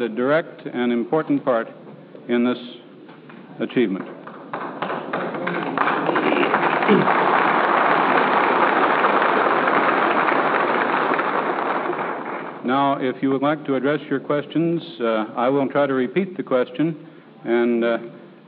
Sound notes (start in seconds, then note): 4.8 applause